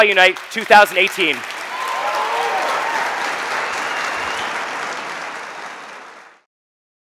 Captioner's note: audience applauding; audience cheering